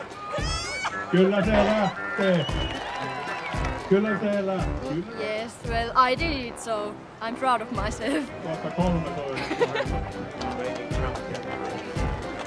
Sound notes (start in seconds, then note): 0.2 laughing; 1.5 speaking in Finnish; 3.5 speaking in Finnish